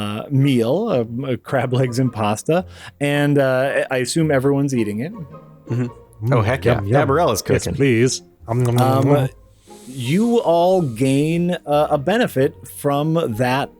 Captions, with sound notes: meal, crab legs and pasta and, I assume everyone's eating it. Oh, heck yeah. Yeah, Dabarella is cooking. - Yes please. ( eating sounds ) You all gain, a benefit from that,